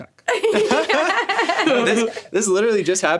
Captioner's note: laughs